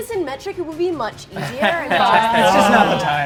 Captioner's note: players laughing